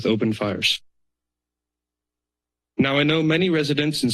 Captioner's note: pause